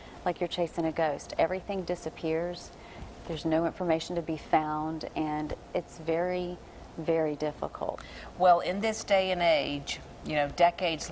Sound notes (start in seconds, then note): none